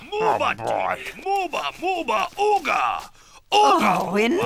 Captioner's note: chanting in foreign language